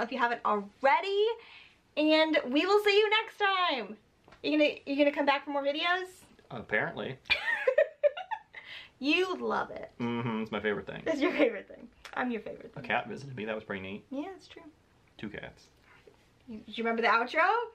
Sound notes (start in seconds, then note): 7.3 laughs